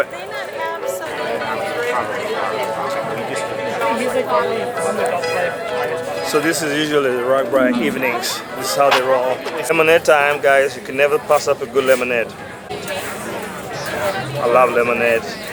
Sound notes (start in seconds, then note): 2.7 chattering